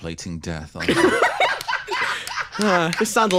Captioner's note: laugh